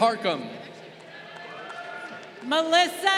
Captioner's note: crowd cheering